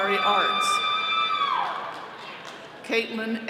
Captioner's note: all cheering